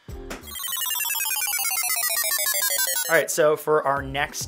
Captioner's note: beep